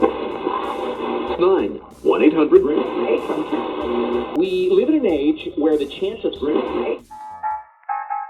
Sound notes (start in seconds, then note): 0.0 scanning radio station dial; 7.1 big band swing music